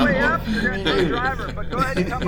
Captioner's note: both laughing